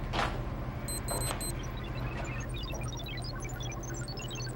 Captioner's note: computer beeps